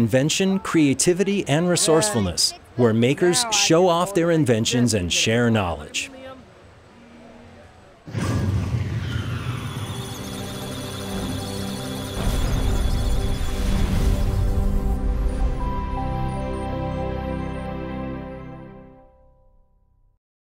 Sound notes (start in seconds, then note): 9.4 musical Tones; 9.4 electronic Sounds of Data